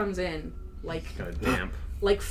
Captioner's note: makes an in-character grunt of disgust